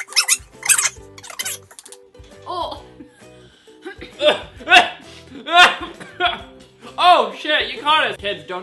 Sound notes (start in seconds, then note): 3.0 coughing / sneezing